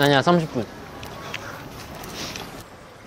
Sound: laughing

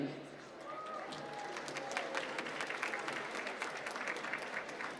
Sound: applause

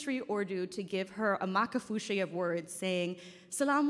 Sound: speaking in foreign language

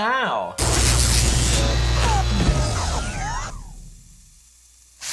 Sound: loud electrical zapping

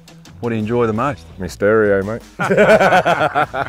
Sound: laughs

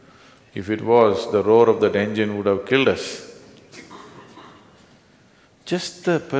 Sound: laughs

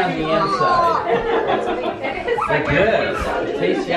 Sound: laughing

